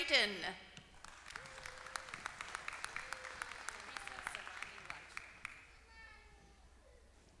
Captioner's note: applause